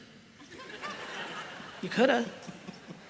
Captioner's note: laughter